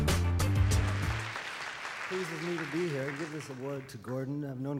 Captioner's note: audience applause